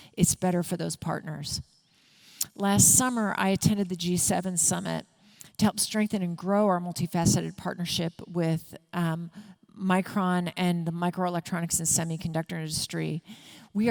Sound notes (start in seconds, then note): none